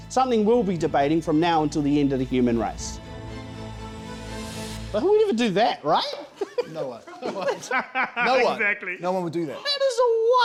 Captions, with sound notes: Something we'll be debating from now until the end of the human race. (suspenseful music) But who would ever do that, right? (laughter) - No one! (laughter) - No one No one, no one would do that.